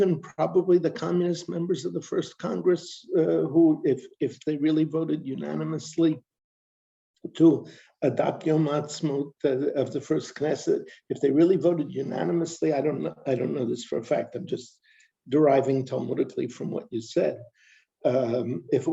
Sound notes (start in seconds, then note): 15.4 non-english speech